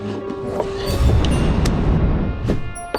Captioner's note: whoosh in slow motion